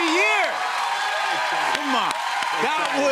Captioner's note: cheers and applause